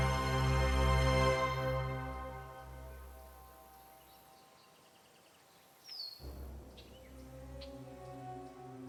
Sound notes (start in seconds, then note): 5.2 birds chirping